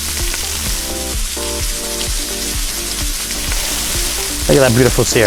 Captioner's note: sizzling sounds continue